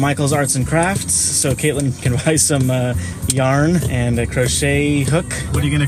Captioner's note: laughing